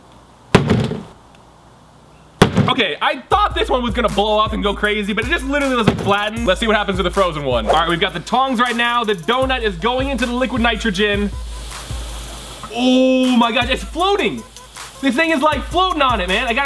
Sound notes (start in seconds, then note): 0.0 hammer bangs; 11.7 sizzling